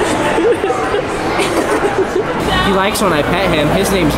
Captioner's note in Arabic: ضحك